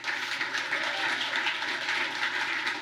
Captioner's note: applause